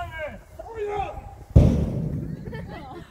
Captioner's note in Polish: huk wystrzału